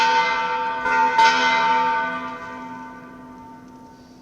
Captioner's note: bell dings